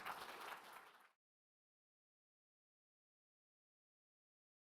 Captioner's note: audience clapping